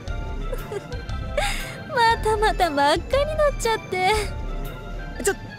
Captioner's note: giggle